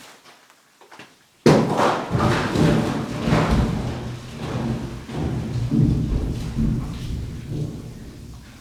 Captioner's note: crashing